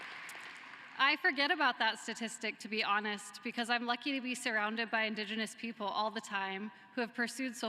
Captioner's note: cheering and applause